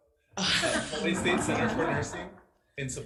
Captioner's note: all laughing